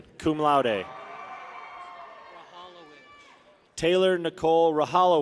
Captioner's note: people cheer